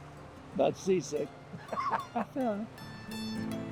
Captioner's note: laughs